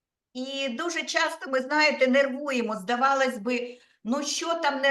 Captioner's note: speaking Ukrainian